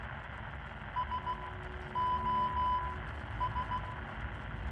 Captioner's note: electronic beeps